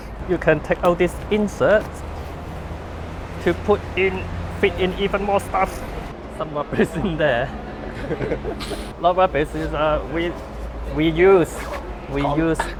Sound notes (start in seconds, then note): 7.8 laugh